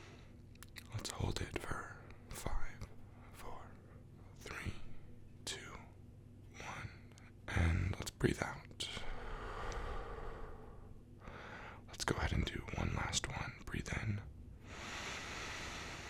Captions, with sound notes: Let's hold it for 5... 4... 3... 2... 1... And let's breathe out. (exhale deeply) Let's go ahead and do one last one, breathe in. (inhale)